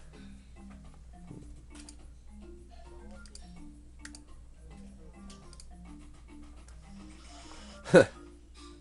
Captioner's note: clicking